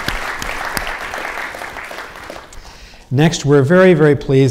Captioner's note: audience applauding